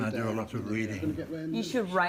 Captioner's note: chatter